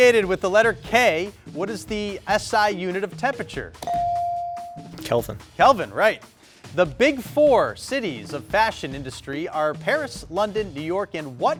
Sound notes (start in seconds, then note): 3.8 buzzer dinging